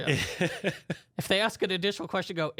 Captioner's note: laughs